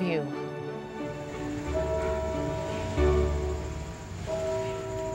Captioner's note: bell tolling in distance